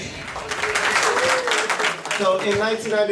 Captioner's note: applause